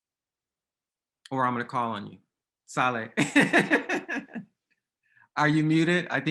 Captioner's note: laughs